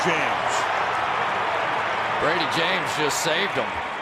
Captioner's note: cheering